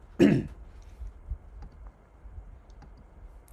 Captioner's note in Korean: 목을 가다듬음